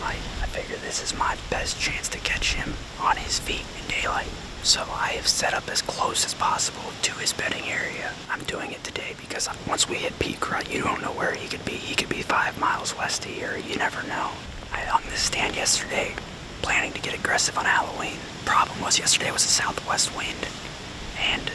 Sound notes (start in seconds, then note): none